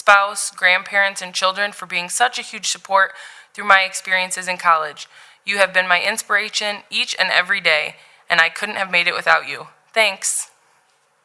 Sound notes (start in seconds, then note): none